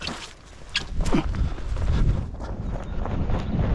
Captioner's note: grunts; breathing heavily